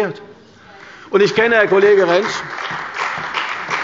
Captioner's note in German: Beifall bei der CDU und dem BÜNDNIS 90/DIE GRÜNEN